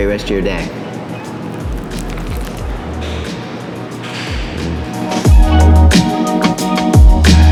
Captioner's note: bright R&B music; crunches